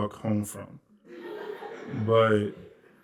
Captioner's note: laughter